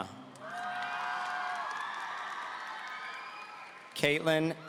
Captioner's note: audience cheering